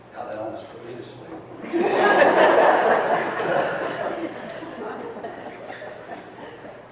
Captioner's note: laughter